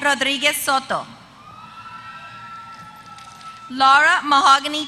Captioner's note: applause